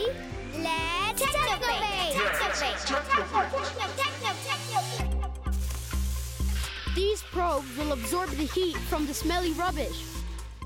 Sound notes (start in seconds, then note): 2.4 echoing; 5.6 buzzing